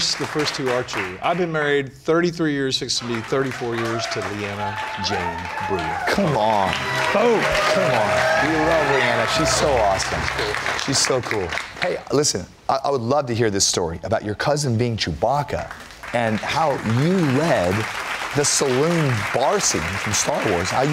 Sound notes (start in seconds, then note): 8.3 applause / Cheers; 15.5 applause